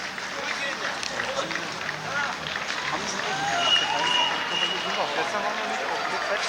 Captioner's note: crowds cheering in distance